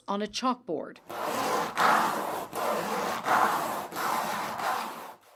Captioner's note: nails scratch on chalkboard